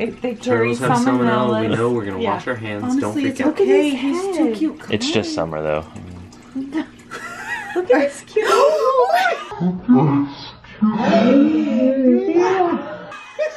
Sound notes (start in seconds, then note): 8.7 gasping; 10.0 slowed down audio; 13.3 laughing